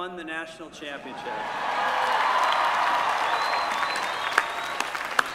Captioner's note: applause